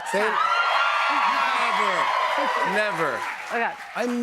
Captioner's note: cheers and applause